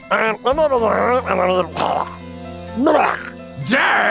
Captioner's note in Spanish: ruidos de trasgo